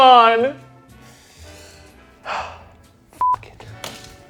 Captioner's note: sighs; beep